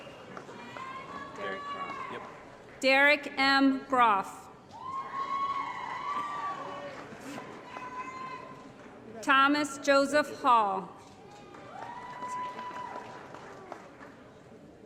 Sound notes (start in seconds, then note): 0.0 applause; 4.8 applause & Cheering; 11.4 applause & Cheering